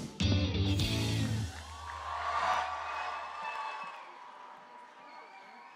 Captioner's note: cheering and applause